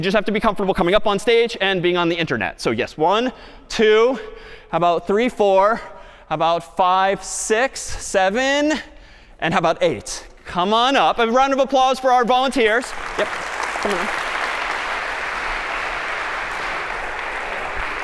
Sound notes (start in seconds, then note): 12.7 applause